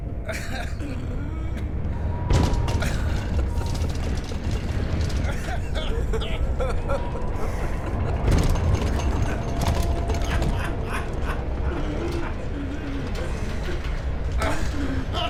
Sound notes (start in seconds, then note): 2.7 banging and rattling; 2.7 laughing